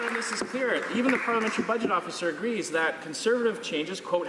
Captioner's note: some Applause